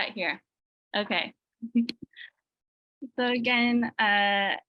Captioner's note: laughing